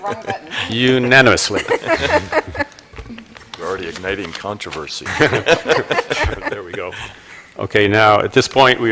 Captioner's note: laughter